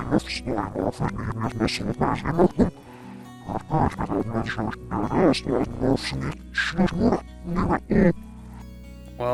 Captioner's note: speaking in foreign language